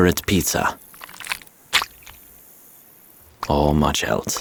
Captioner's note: cheese splatting